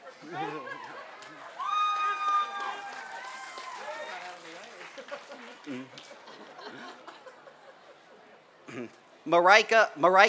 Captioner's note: applause